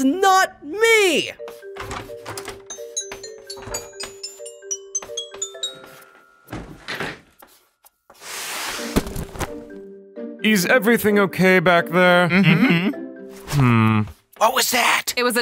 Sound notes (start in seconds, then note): 1.7 door knob rattling; 3.2 xylophone playing; 7.0 chairs clattering; 8.1 book sliding